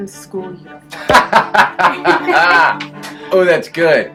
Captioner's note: laughs